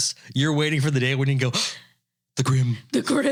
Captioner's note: gasp